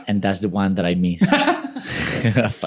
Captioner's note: laughing